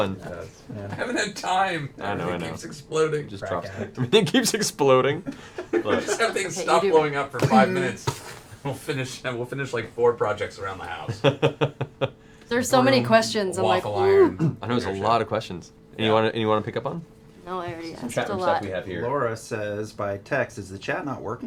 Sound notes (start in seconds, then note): 5.2 laughs